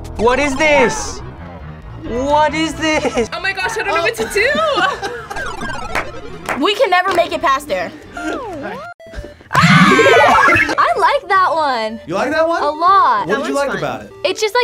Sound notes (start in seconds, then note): 4.5 sad video game music; 9.5 both scream